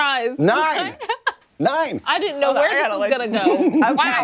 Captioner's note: laughter